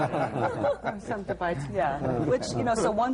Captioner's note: laughter